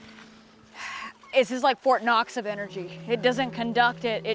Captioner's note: sighs